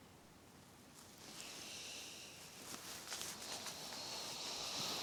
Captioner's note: clothes rustling